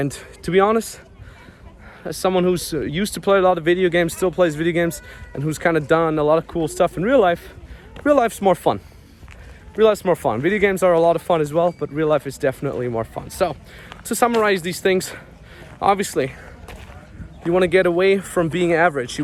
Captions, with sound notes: And to be honest, as someone who used to play a lot of video games, still plays video games, and who's kinda done a lot of cool stuff in real life, real life's more fun, real life's more fun. Video games are a lot of fun as well, but real life is definitely more fun. So to summarize these things, (people chattering) obviously, you wanna get away from being average.